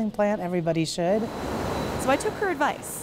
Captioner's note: factory nat sound